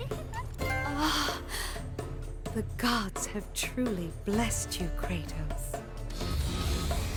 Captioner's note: giggling